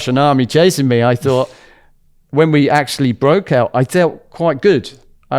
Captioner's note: laughs